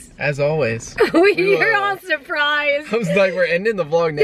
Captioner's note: laughing